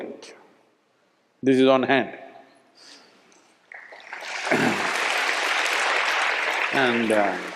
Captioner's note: applause